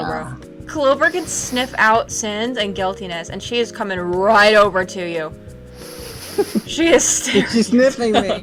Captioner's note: sniffing